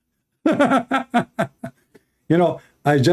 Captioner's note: Ketawa